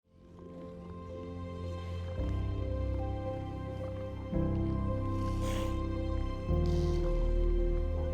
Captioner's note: serene music; seals grunting softly